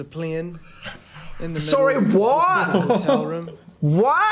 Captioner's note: Phil laughs